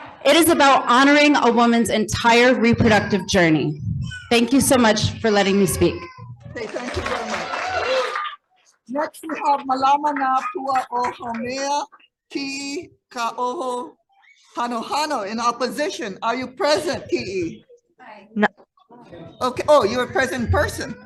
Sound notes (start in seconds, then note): 6.5 audience applauding